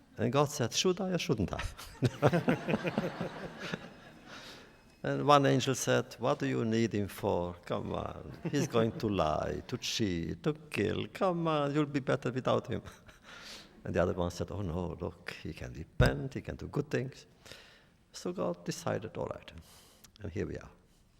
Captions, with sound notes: And God said should I or shouldn’t I? (laughter) And one angel said what do you need them for? Come on, he’s going to lie, to cheat, to kill. Come on, it will better without him. And the other one said oh no, look, he can repent. He can do good things. So God decided all right, and here we are.